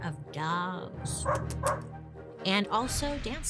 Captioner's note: lips smooching; dog barking